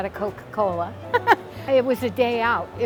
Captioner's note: giggling